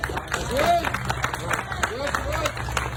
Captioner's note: audience applauding